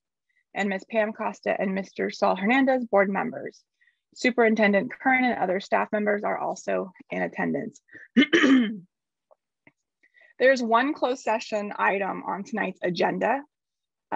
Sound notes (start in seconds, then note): 8.1 clears throat